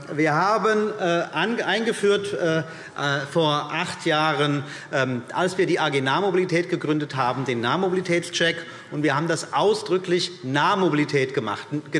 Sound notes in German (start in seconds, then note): none